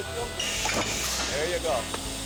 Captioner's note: thud; claps